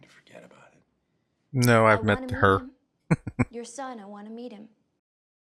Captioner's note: chuckling